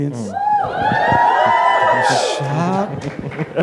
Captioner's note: applause